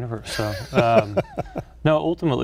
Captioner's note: laughs